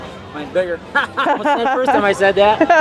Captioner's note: laughter